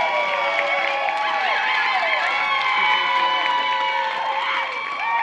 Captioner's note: cheering